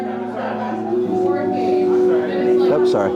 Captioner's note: party noise